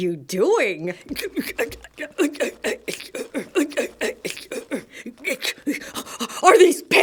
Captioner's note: more witcheficent grunting